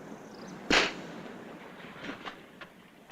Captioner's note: slap